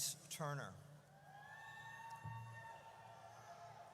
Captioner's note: audience cheers